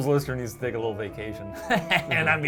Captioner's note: laughs